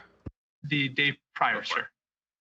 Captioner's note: speaking French